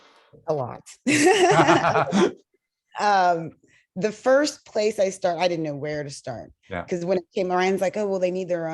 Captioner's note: laughter